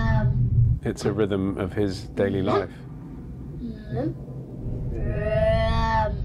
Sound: rumbling

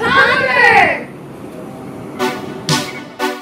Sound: truck sounds

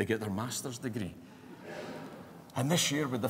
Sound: laughter

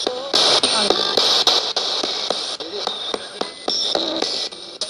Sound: radio babbles

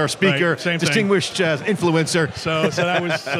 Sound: laughs

